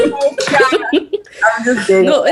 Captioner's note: they laugh